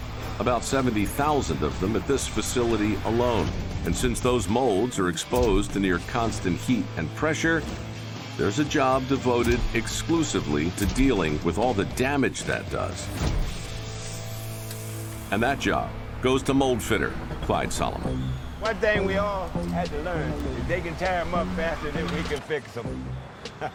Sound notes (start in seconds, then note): 13.1 exciting music; 13.1 flame whooshes